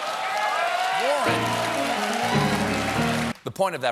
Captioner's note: cheers and applause